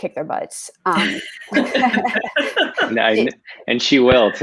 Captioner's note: laughter